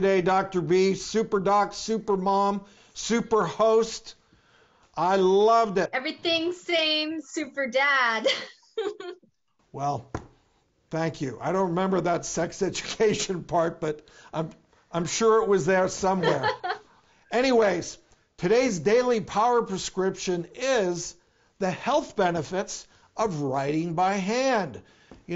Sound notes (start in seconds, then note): 8.2 laughs